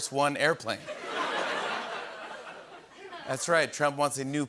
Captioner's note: laughter